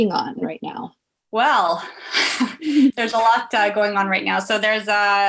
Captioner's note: laughs